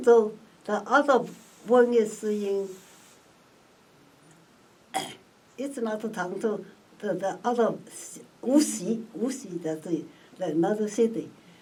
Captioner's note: clears throat